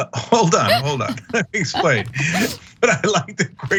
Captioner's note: laugh